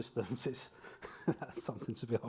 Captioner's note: laughs